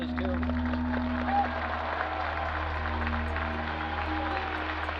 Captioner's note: cheers and applause